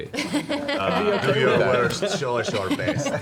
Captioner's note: laughter